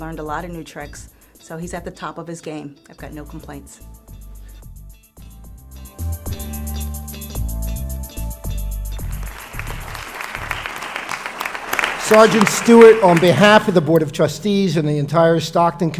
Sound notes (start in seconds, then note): 9.0 applause